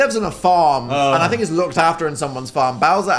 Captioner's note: Phil groans